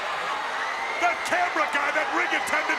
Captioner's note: crowd cheering